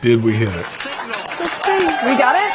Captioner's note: applause